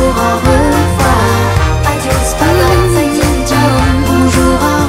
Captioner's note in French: Mmh-mmh